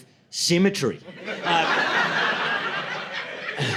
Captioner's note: laughter